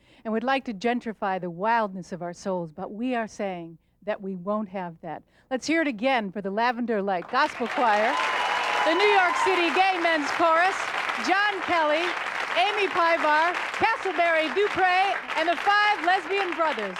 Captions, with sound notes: And would like to gentrify the wildness of our souls. But we are saying that we won't have that. Let's hear it again for The Lavender Light Gospel Choir. [Audience applause] [Applause cont] The New York City Gay Men's Chorus. John Kelly. Amy Pivar Casselberry-DuPreé, and The Five Lesbian Bothers